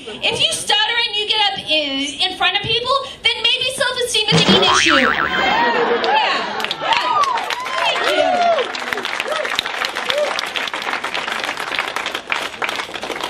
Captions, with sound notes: if you stutter and you get up in front of people, then maybe self-esteem isn't an issue! [cheers] Yeah. Thank you. [applause]